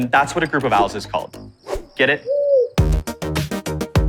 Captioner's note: owl cooing; lively music continues